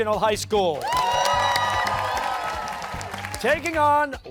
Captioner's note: cheers and applause